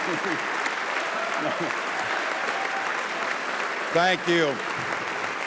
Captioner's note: applause